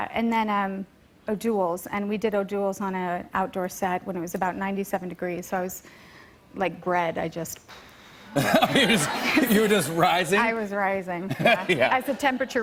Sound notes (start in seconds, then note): 8.3 laughter